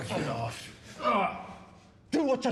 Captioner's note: groans